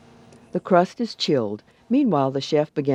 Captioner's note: voiceover